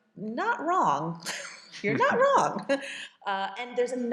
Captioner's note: chuckles